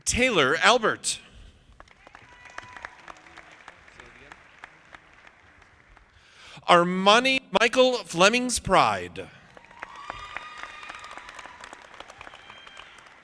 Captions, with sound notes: Taylor Albert. (audience clapping) Say it again. Armani Michael Flemings-Pride. (audience applauding)